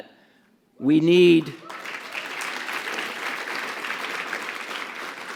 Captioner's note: audience applauds